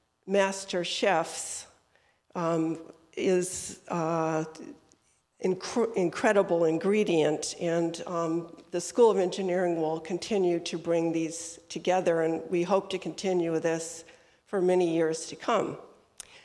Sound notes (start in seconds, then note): none